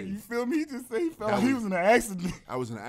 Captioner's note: laughs